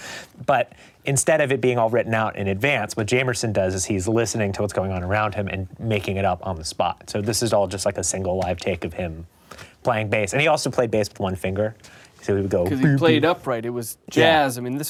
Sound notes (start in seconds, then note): 13.0 imitates bass